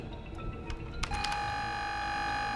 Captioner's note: intercom beeping